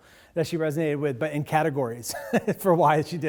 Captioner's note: laughs